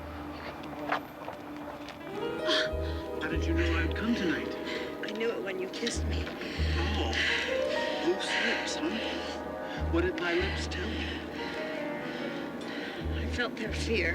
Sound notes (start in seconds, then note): 2.4 groaning